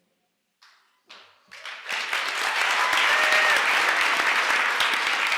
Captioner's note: applause